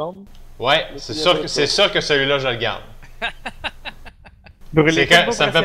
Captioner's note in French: Rires